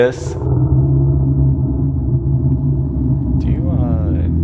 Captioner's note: loud roar